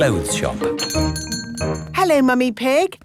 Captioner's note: doorbell chiming